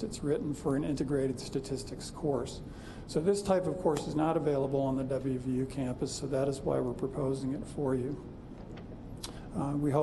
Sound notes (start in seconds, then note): none